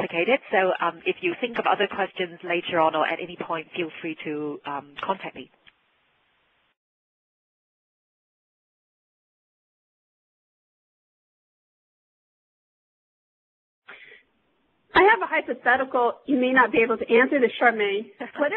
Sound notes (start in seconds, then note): 6.9 pause